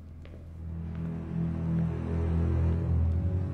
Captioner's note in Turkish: Ayak Sesleri